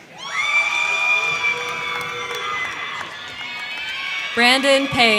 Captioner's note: crowd cheering; crowd clapping